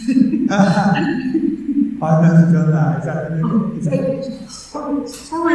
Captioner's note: laughter